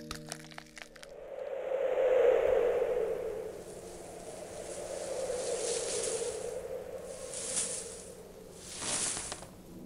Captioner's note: snow falling and wind blowing